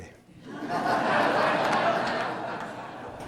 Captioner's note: laughter